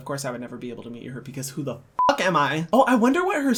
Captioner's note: beep